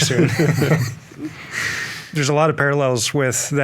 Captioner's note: all laughing